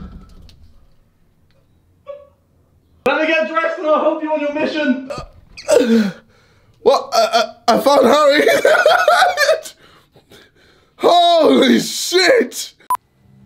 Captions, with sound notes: (door closing) Let me get dressed, and I'll help you on your mission. - (gasping) I found Harry. (laughing) Holy shit!